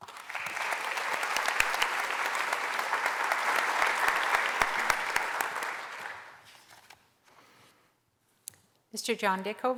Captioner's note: applause